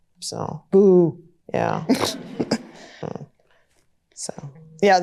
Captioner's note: chuckles